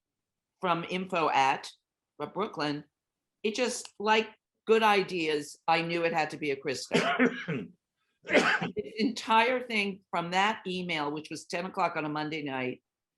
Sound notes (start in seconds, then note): 6.6 speaking faintly